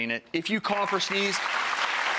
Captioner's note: audience claps